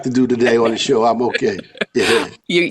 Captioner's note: laughing